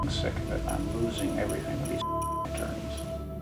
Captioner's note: beep; hollow music